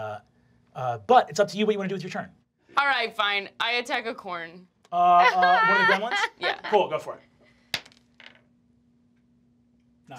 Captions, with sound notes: but it's up to you what you wanna do with your turn. - Alright fine, I attack a corn. - One of the gremlins, cool go for it. (dice clacking) Not great?